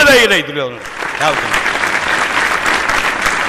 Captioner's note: receptive applause